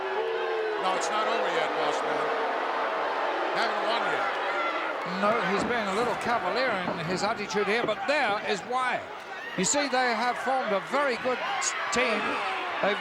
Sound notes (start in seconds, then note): 3.0 crowd booing